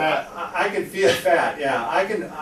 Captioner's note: chuckling